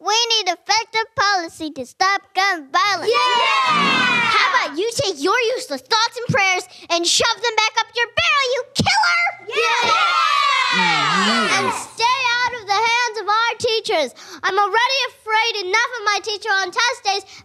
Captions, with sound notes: We need effective policy to stop gun violence. (Cheers) How about you take your useless thoughts and prayers and shove them back up your barrel you killer! (Cheers) And stay out of the hands of our teachers. I'm already afraid enough of my teacher on test days,